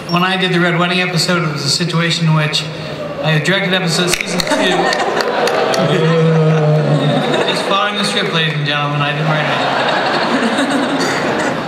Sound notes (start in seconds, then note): 4.3 crowd booing; 9.4 laughter